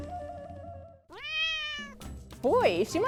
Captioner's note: cat meows